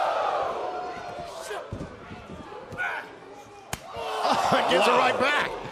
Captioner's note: crowd chatter